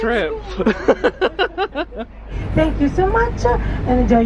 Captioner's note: laughing